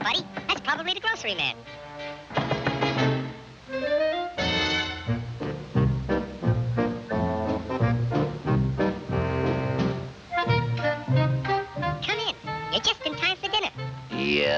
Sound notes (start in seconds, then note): 2.4 door knocking; 5.4 bouncy music